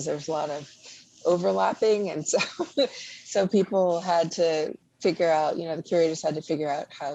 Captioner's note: laughs